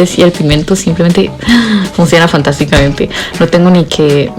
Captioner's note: le gasp